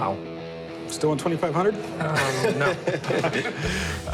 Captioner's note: chuckles